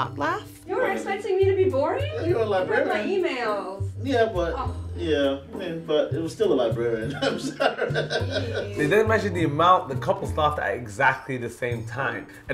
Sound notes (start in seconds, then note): 7.0 laughs